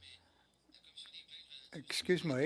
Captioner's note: speaking french